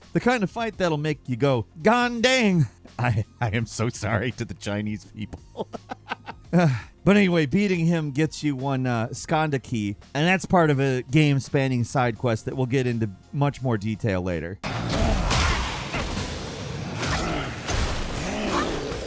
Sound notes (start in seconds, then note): 14.6 creature growling